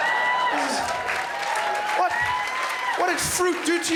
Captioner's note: crowd laughs